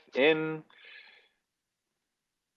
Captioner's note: inhale sound